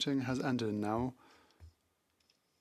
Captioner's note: speaking FRENCH